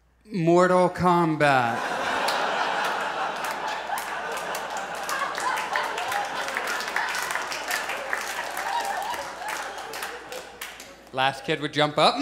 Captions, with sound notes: "Mortal Kombat." [Audience laughs and applauds] The last kid would jump up,